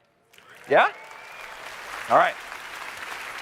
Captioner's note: applause